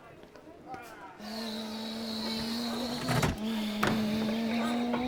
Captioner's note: engine noises